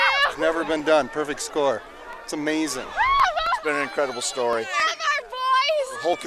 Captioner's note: cheers and applause